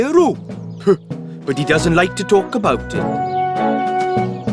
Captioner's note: huffs